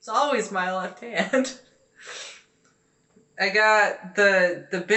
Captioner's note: laughing